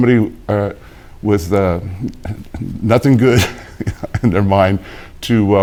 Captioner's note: chuckles